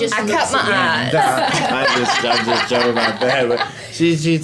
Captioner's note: laughs